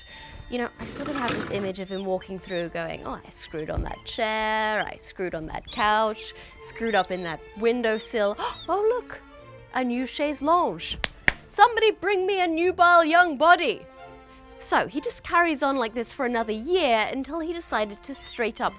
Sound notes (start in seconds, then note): 11.0 clap, clap